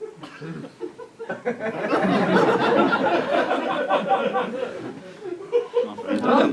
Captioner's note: laughter